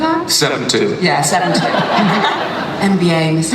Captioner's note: audience laughs